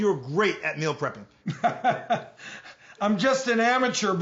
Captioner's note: laughs